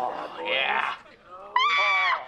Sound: screaming

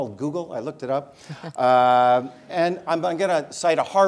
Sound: laugh

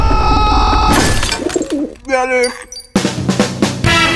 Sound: hits glass

